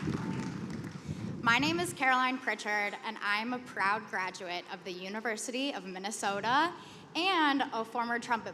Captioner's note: applause